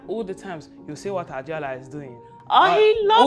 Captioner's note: imitates dad